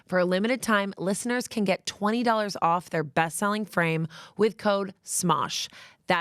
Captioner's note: none